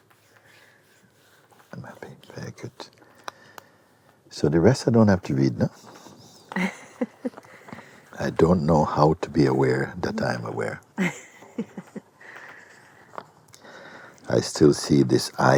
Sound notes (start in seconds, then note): 11.0 questioner laughs